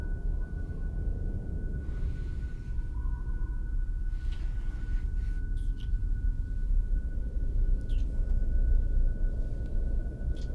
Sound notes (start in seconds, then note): 1.7 man breathes deeply; 1.9 muffled wind blows